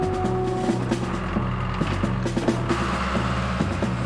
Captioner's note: engine Running